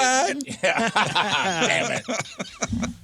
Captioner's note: laughing